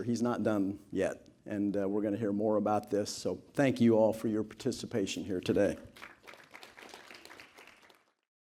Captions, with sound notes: He's not done yet. And we're going to hear more about this. So, thank you all for your participation here today. (Applause.)